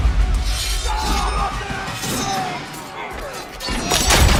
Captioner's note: men yelling